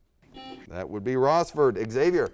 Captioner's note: buzzer beeps